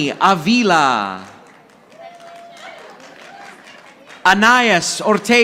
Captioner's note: audience applauding